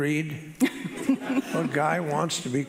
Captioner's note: laughing